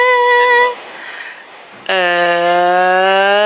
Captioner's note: deep breath; sound increasing in pitch